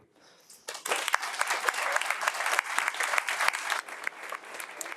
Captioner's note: everyone applauding